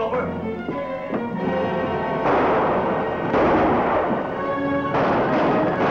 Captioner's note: gunshots